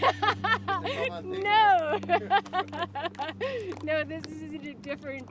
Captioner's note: laughing